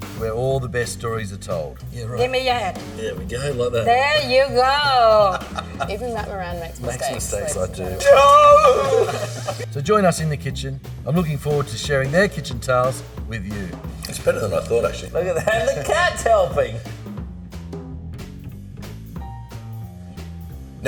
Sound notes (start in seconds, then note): 5.4 laughing; 9.1 laughing; 17.3 smooth jazz music